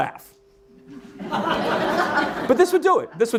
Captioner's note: audience laughing